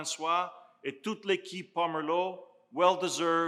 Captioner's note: speaking in foreign language